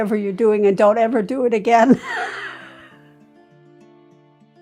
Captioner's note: laughing